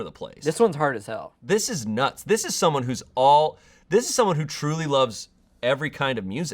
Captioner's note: none